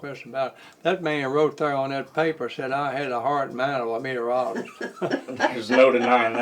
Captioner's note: laughter